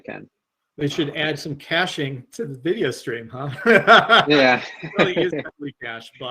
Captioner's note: laughs